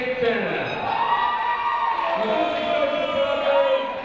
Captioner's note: crowd noise